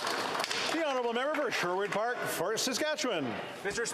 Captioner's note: applause